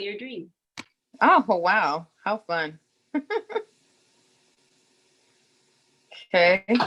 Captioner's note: laughs